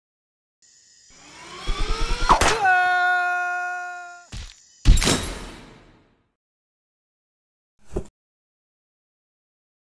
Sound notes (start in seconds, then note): 1.2 Henry’s scream recedes